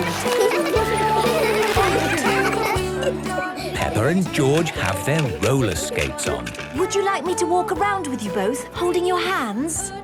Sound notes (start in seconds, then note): 0.0 laughter; 2.8 giggling